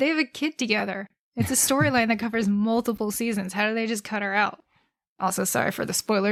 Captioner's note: laughs